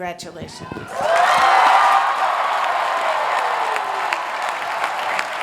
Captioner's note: applause